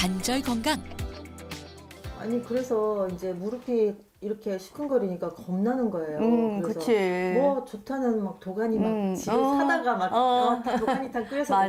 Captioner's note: voiceover